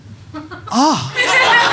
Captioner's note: cries in pain